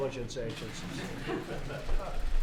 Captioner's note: laughter